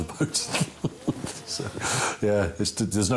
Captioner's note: laughs